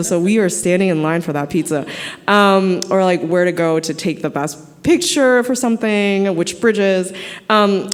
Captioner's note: none